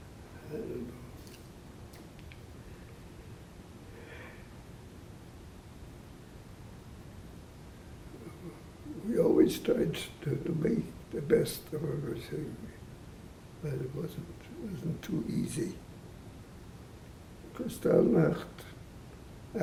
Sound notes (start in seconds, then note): 3.9 sighing